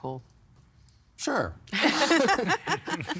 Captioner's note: all laughing